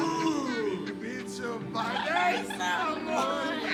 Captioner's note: Tonis laughing and singing in background